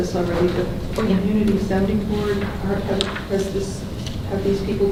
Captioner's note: rustling drowns out speaker